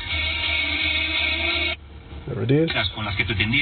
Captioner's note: radio plays